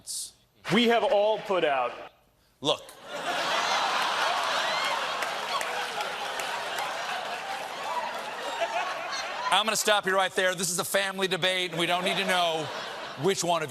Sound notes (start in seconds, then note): 3.0 laughter